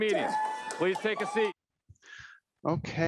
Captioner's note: applause